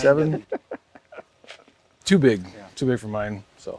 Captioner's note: laughs